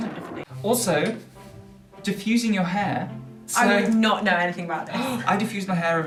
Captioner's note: gasp